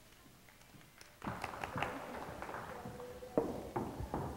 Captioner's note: audience clapping